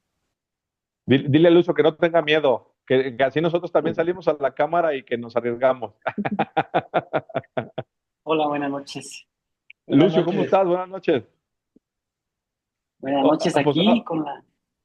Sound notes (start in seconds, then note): 6.0 risas